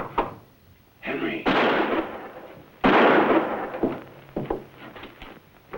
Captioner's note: gunshots